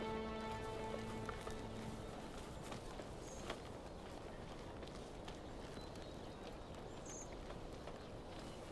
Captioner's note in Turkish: Ayak sesleri; Kuş cıvıltısı sesleri